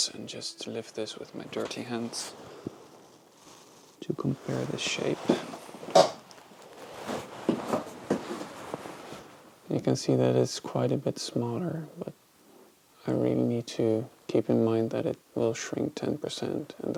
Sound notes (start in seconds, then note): 6.1 shuffling